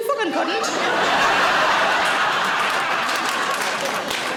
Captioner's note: audience laughing